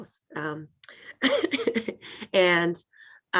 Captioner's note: laughs